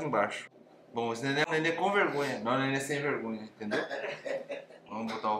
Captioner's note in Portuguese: risos